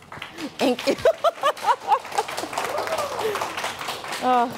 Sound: applause

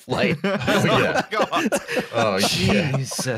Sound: all laughing

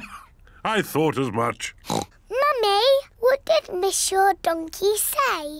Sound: oinks

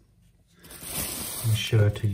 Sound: paper rustles

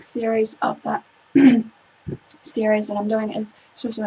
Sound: clearing the throat

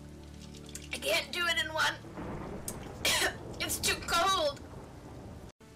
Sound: cough

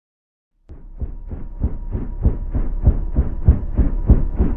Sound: helicopter whirring

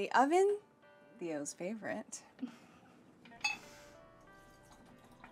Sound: Hannah chuckles

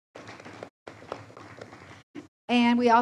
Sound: audience applauds

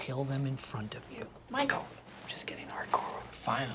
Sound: whispering

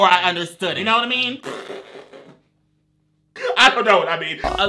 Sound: blows raspberry

